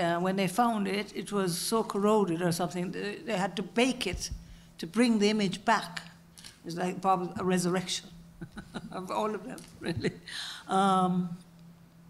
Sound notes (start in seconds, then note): 8.4 laugh